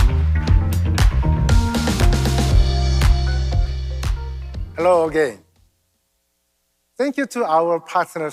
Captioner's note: applause